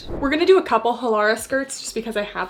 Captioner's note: screen whooshing